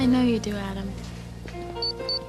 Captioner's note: beeping